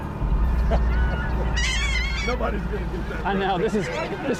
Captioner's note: laughing